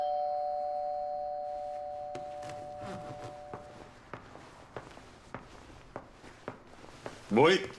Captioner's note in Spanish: Suena timbre de la puerta